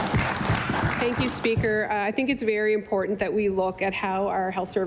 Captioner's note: applause